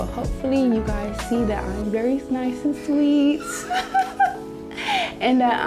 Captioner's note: laughs